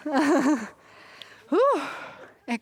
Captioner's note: ríe